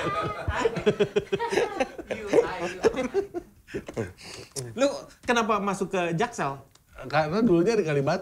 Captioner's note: laughs